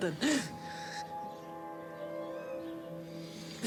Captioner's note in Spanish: sollozos